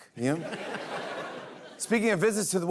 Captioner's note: laughter